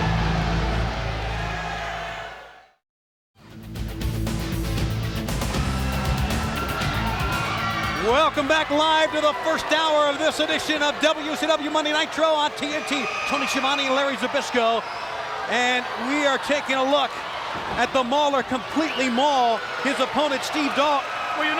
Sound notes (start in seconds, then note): 0.0 audience cheers; 3.6 upbeat music; 5.9 audience cheers